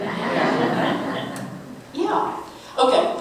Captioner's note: audience Laughing